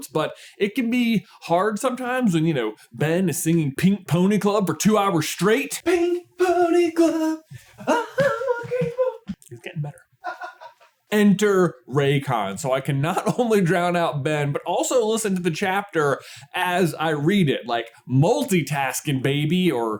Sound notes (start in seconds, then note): 10.7 laughs